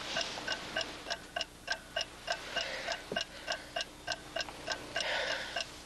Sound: clock ticking loudly; clock ticking

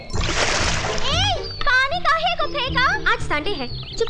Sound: birds Chirping

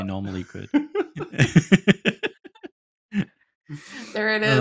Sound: laughter

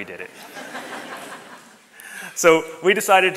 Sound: audience laughs

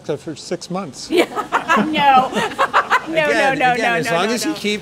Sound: laughs

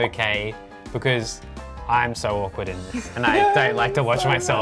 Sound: laughs

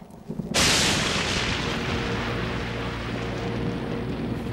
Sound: loud thunder

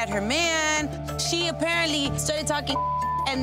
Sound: beep

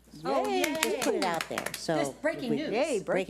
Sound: audience applauds

